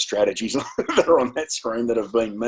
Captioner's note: chuckles